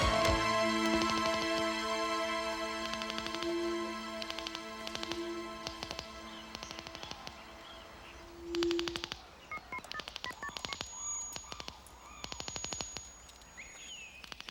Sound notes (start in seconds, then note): 10.2 phone beeping